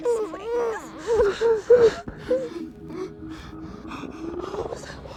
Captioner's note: panting